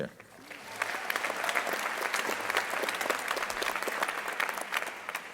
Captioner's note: crowd applauding